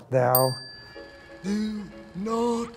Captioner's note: bell dings